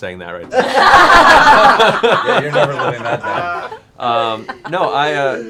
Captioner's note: laughter